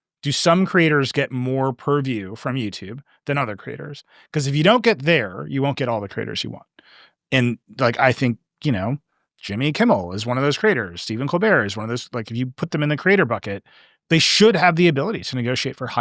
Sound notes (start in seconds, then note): none